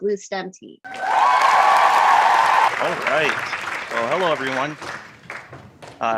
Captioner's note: applause